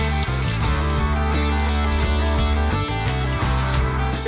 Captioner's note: paint splashing